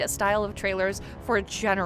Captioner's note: none